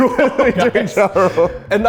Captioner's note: laughs